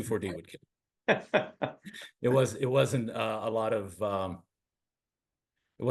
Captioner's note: laugh